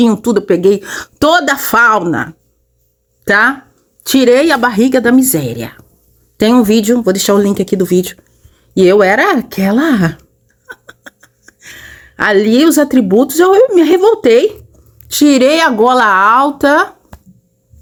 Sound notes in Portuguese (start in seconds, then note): 10.5 risadas